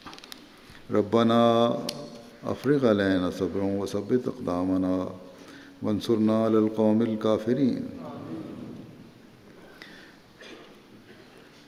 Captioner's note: Arabic